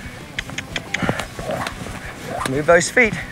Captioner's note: mouth clicking